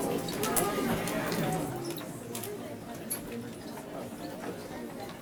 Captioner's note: people faintly talking